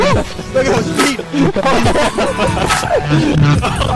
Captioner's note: laughter